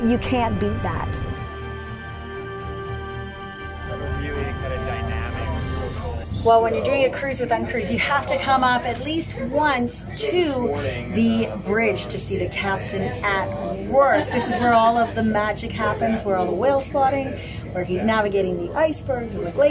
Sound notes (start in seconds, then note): 0.0 dramatic music; 3.1 group chatter